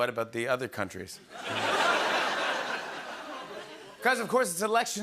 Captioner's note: laughter